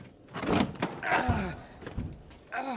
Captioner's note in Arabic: آهات